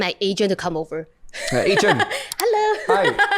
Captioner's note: laughs